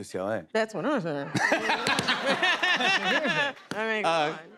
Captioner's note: laughter